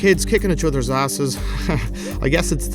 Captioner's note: chuckles